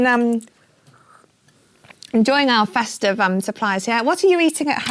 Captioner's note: sip